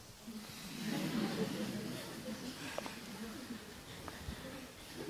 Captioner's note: laughter